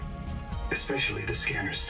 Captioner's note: water gurgling